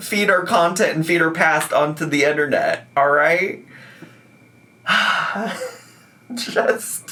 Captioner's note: sighing